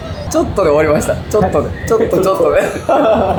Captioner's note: laughs